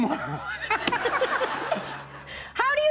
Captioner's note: laughter